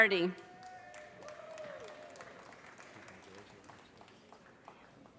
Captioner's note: audience cheers and applause